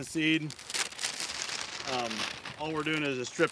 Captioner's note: paper bag rustling